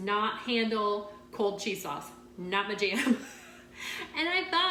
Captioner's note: chuckling